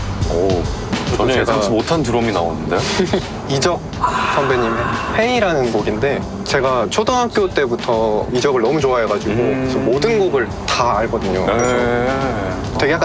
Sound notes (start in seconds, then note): 4.0 laughs